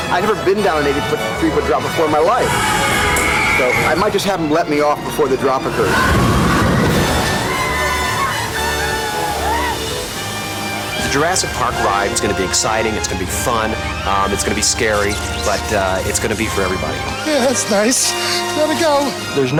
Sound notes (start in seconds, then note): 6.4 people yelling; 6.4 water splashing